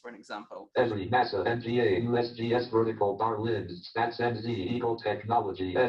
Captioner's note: JAWS speaking disjointedly